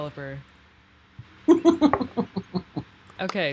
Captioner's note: laughing